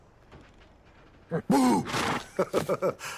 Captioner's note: snorts